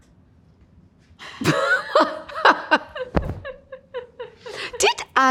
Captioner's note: both laughing